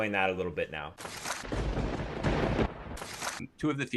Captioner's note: papers shuffle; thunder booms